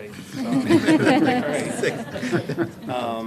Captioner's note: laughing